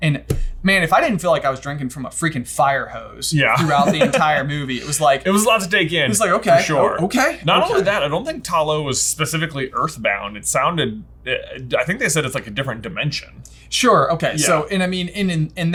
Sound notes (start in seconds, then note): 3.5 chuckles